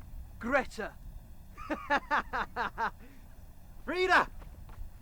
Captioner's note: laughing